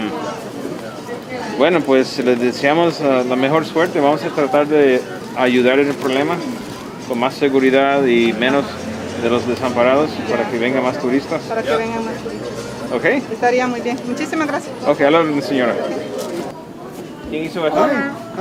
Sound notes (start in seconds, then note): 11.7 in Spanish; 17.8 female Vendor in Spanish